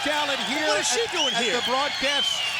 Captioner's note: crowd cheering